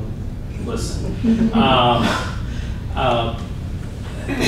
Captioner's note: laughter